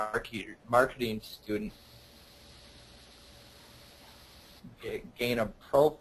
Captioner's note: audio cuts out briefly